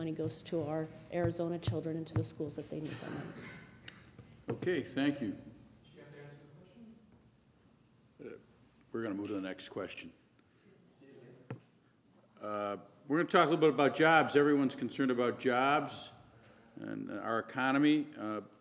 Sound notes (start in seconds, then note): 6.0 voiceover; 11.1 voiceover